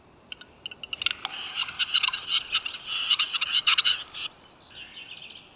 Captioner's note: chattering